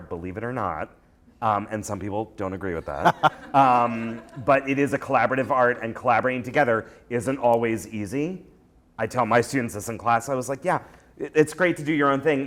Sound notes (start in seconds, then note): 3.0 laughter